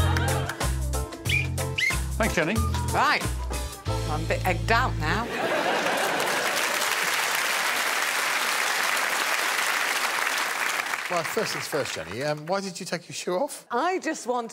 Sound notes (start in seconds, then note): 1.2 Alex blows whistle; 9.1 audience clapping